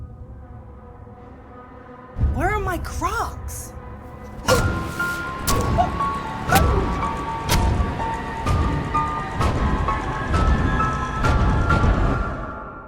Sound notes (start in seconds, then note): 0.0 tense menacing music; 4.2 knife stabbing; 4.5 Ashley groans; 9.3 dramatic ominous music